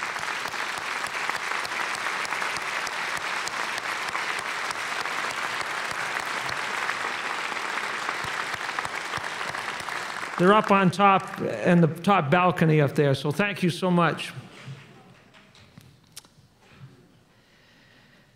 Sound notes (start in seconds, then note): 4.3 applause